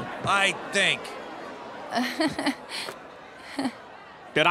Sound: laughing

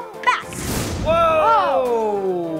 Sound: magic explosion

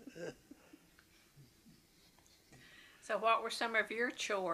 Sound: laughter

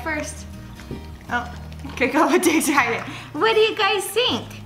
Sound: laughs

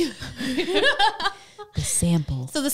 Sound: laughing together

